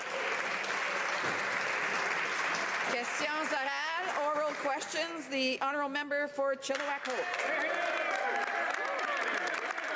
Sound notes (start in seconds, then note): 4.2 some Applause